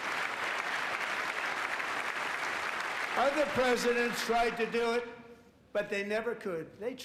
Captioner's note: applause